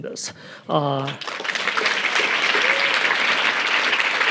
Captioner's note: audience applauding